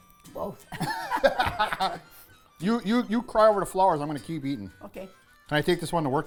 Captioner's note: laughing